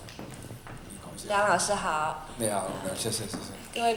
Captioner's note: Mandarin